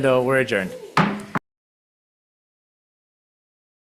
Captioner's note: gavel slams